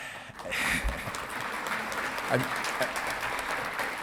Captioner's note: audience clapping